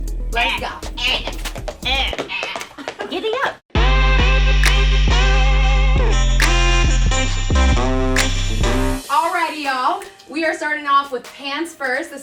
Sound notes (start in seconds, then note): 2.7 horse hooves clopping; 3.7 western hip hop music